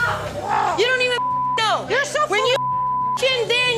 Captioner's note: beep